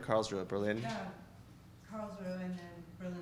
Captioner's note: voiceover